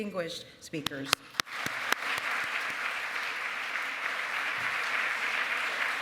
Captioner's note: applause